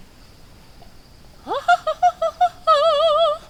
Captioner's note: people laughing